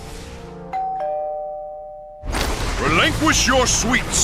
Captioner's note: doorbell rings